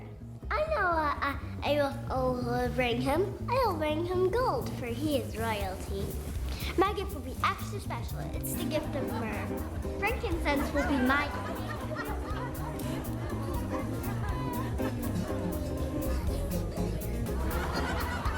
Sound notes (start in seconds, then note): 11.4 crowd laughing